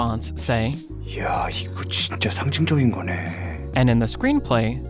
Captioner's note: speaking foreign language